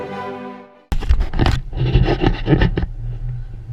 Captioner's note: GoPRO STICK SQUEAKING